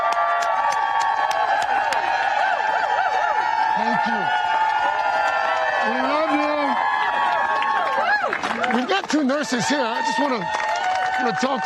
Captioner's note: cheers and applause